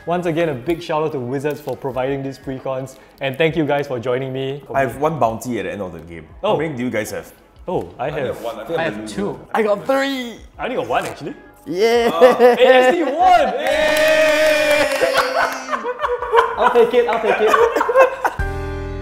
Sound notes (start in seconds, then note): 11.7 laughs; 14.4 players cheering; 17.7 laughs